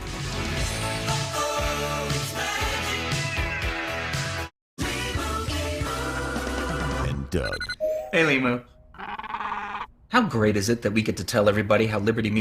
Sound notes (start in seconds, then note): 8.9 squawks